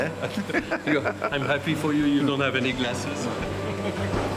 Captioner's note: laughs